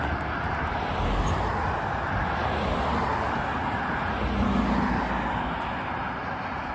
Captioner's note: car noise